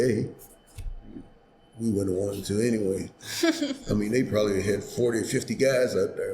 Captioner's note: laughs